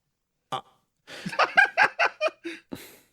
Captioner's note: laugh